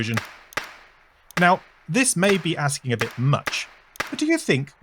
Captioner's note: spark sounds